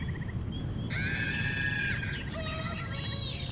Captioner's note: woman screaming in the distance